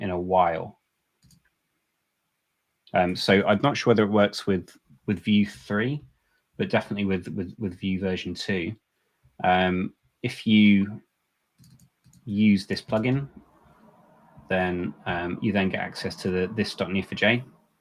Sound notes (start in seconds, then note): none